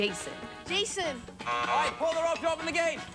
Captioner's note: buzzer